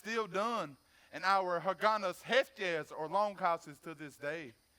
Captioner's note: speaks foreign language